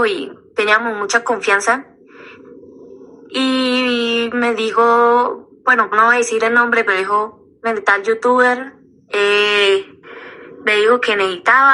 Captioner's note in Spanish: resoplido